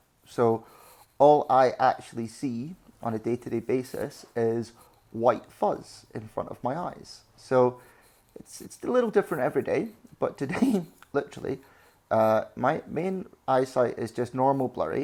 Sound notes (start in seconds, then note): 10.5 laughs